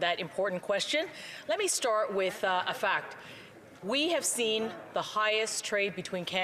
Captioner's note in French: voix de l'interprète